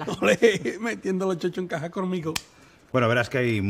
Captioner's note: laughs